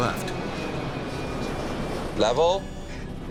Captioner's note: engines whining